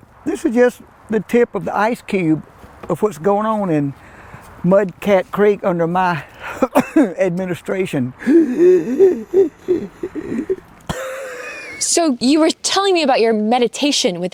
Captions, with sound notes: This is just the tip of the ice cube of what's going on in Mudcat Creek under my administration. (gasps) (Mayor coughs) - So you were telling me about your meditation